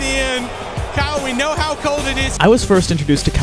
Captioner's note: crowd boos